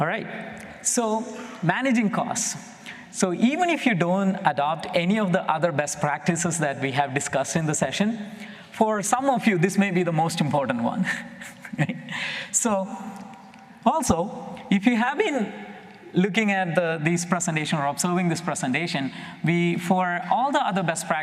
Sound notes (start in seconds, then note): 11.0 chuckles